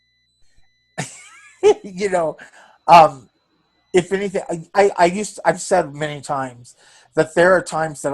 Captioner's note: laughs